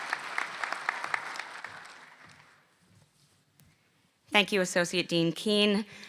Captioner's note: applause